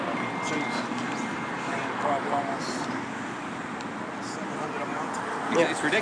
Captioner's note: cars overpower his speaking